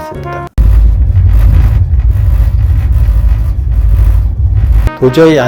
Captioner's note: annoying vibration noise from the sink